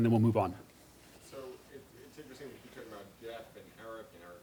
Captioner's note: voiceover